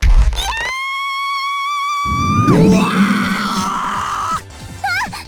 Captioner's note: panicked scream